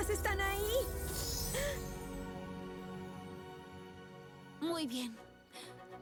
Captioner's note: chimes